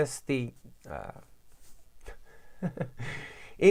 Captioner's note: laughs at loss of thought